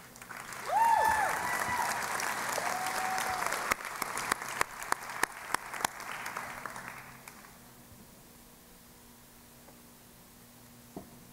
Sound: applause

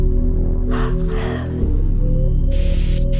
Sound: yawns

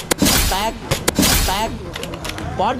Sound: gunshot firing

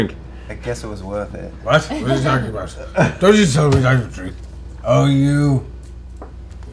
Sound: slurred

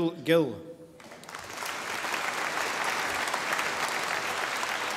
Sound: audience applauding

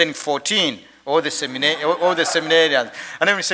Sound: attendees laugh

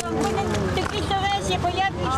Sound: non-english speech

